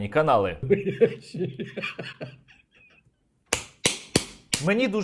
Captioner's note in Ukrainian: сміється